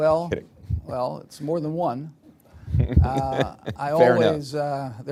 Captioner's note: laughs